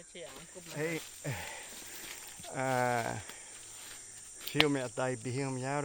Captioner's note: speaking Yanomami